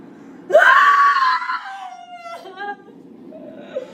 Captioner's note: screams